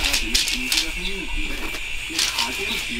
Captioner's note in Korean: 라디오 소리